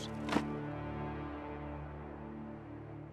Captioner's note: dirt clatters